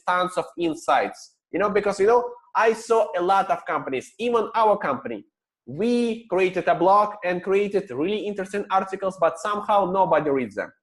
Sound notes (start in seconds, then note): none